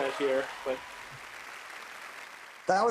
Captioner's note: cheers and applause